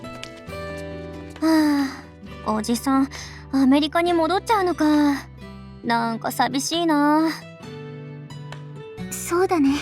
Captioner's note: sigh